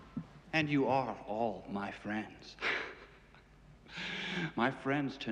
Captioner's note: Смеется